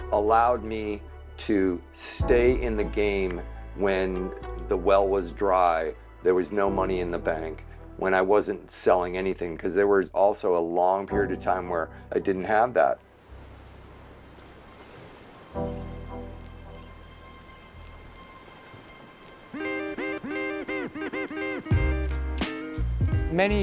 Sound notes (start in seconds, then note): 13.0 water sloshing softly; 19.7 bright chill music